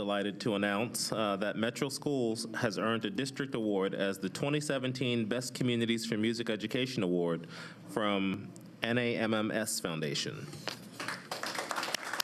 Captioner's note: applause